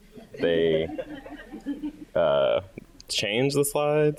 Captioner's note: audience laughing